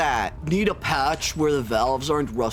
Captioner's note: entitled commenter voice